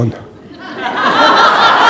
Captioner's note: laughter